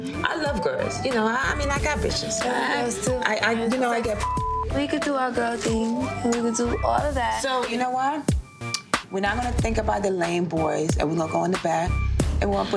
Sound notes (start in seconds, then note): 2.6 overlapping chattering